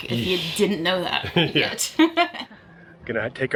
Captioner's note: laughing